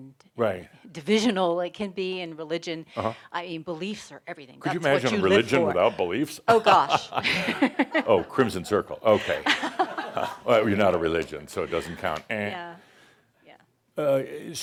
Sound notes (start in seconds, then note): 6.5 they chuckle; 9.3 more chuckles